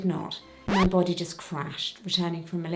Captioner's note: record scratching